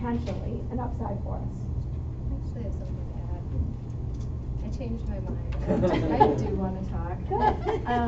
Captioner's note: laughter